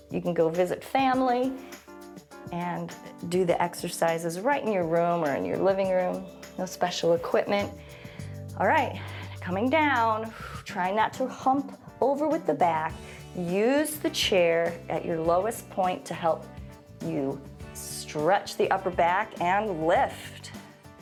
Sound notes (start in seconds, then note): 7.7 exhales